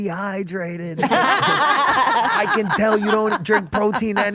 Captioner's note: group laughing